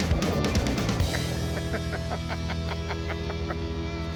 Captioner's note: laughs